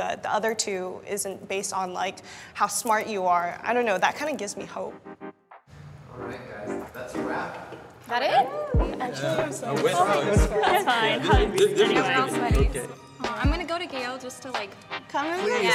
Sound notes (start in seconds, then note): 8.1 group chattering